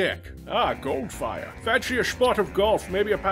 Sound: Connery impersonation

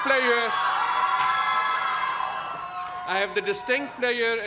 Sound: cheers and applause

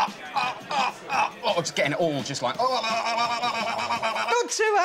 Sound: grunts; gargles

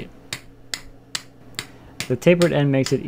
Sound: tapping

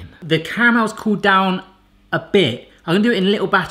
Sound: none

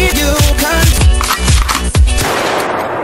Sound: pow!; gun loading

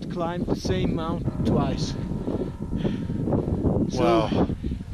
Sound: wind whipping

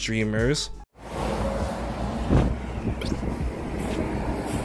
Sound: traffic rumbling

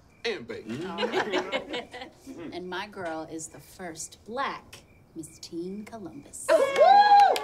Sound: laughs; all cheering

